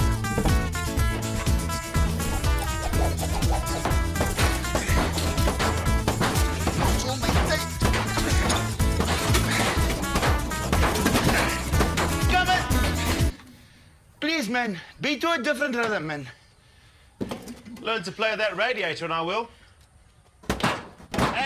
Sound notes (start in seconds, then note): 0.1 panels banging; 4.8 banging off tune with the music; 13.0 music stops abruptly